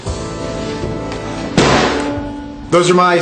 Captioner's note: hood slams